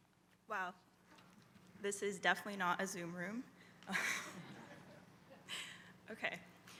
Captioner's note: laugh